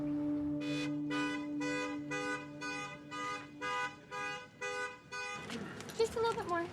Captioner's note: car alarm honking